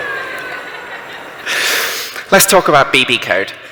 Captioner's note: laughter